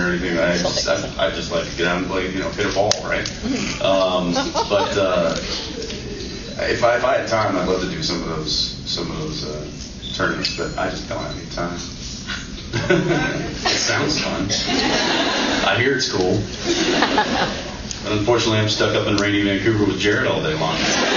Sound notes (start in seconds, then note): 12.6 laughs; 20.9 laughs and awwwws